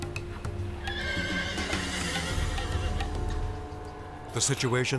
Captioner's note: Toughie neighs